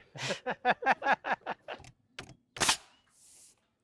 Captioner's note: both laughing